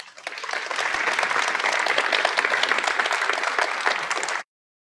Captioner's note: audience applauds